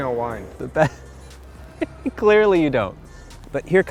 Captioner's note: laughs